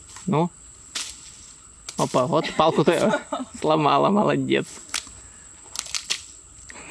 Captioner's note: laughs